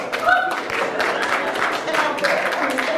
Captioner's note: applauds